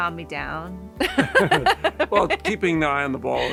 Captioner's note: both laughing